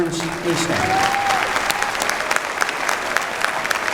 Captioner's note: applause